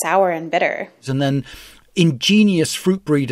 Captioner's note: soundbite of archived recording